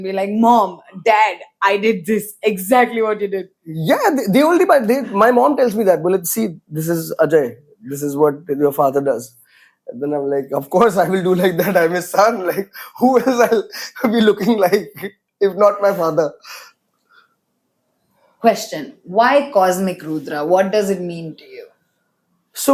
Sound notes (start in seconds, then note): 14.2 laughs